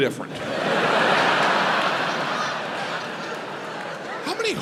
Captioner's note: crowd laughs